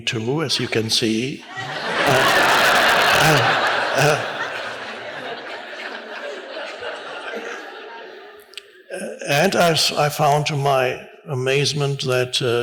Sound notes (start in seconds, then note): 1.4 audience laughs